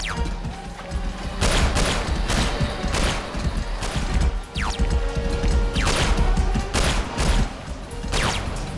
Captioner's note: gunshot